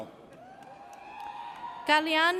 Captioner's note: audience cheers